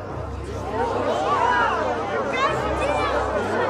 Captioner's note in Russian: Недовольный гул толпы